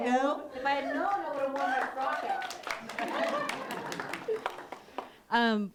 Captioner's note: clapping and laughter